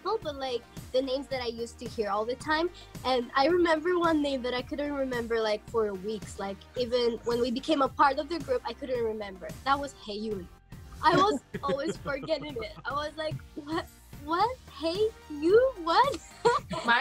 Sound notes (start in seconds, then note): 11.1 laughs; 15.6 laughs